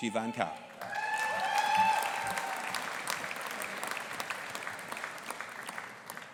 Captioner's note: audience applauding and cheering